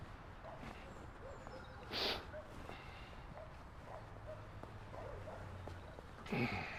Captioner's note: birds chirping; distant dog barking